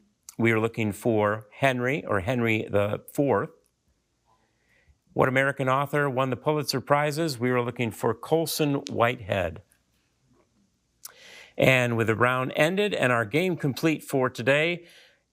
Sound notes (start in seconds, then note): none